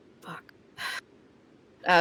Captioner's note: sighs